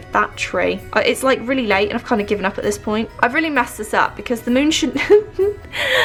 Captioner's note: laughs